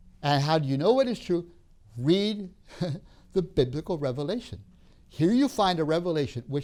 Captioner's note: laughs